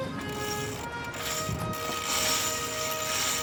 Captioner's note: cranking